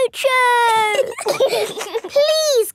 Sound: giggling

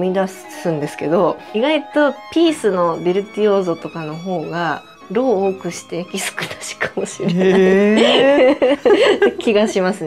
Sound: laughs

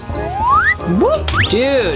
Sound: chicken squawking; ascending whistle

